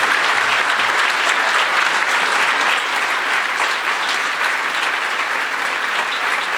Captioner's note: applause